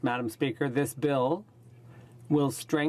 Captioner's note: speaking in french